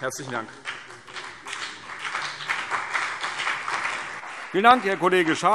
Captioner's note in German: Beifall CDU und vereinzelt BÜNDNIS 90/DIE GRÜNEN